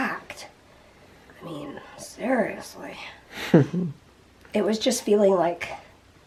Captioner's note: laughs